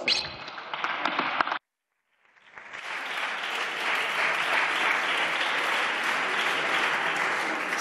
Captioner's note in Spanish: Aplausos